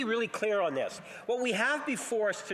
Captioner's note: speaking French